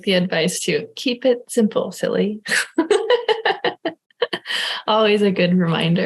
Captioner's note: laughing